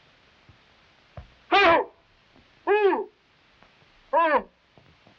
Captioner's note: Manuel yelping